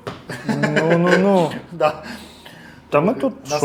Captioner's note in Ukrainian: сміх